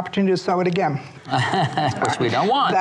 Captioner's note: laughs